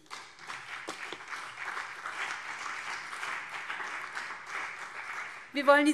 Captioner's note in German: Beifall BÜNDNIS 90/DIE GRÜNEN und CDU